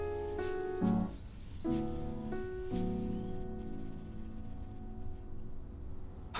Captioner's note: birds chirping